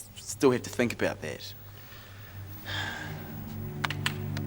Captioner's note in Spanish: Mega suspiros; Música dramática